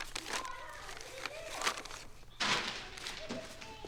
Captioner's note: none